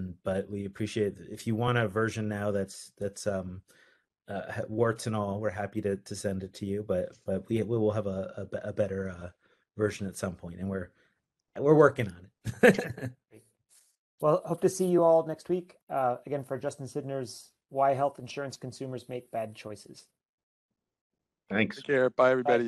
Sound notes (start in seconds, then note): 12.5 laughing